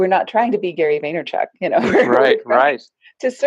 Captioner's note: laughs